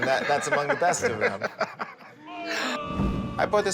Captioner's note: laughing